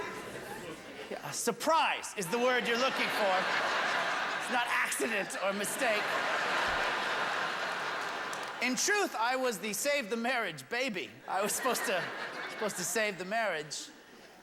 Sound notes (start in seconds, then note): 6.9 laughter